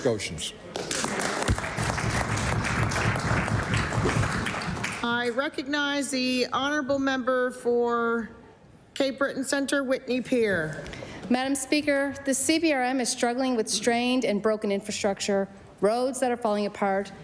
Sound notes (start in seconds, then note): 4.2 applause